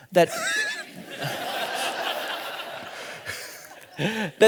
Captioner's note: all laughing